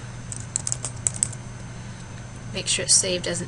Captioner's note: typing